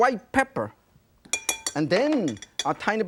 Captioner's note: spoon clanking